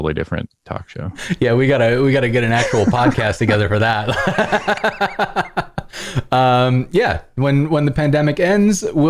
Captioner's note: laughter